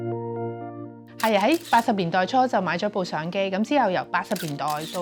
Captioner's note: camera shutter sounds